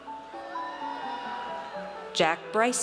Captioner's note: audience cheers